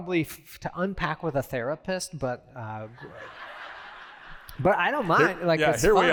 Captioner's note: laughter